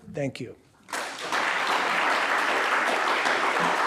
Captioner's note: applause